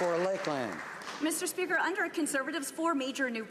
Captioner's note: some Applause